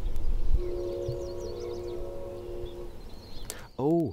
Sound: distant K5LA horn

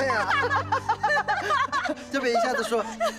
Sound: both laughing

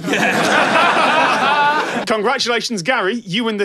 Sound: everyone laughs

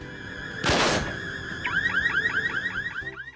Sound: alarm beeps

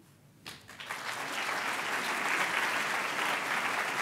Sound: applause

